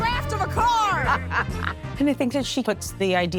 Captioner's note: laughs